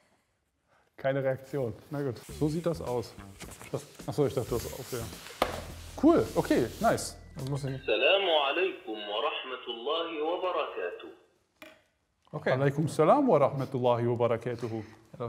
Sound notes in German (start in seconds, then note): 7.4 Arabische Stimme spricht aus Gerät; 12.9 macht Stimme nach